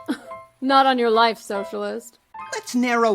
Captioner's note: scoffs